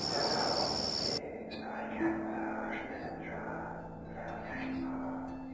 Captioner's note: mysterious whisper chanting